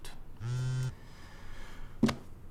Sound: phone buzzes

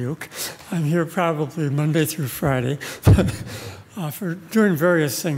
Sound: laughs

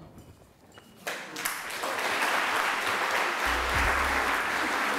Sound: audience clapping

